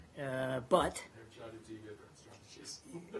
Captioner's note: laughter